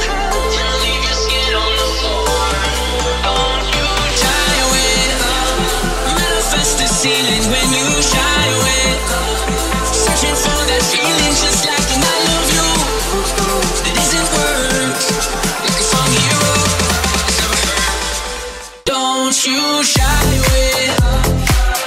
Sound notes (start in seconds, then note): 12.9 ooh, ooh; 14.7 ooh, ooh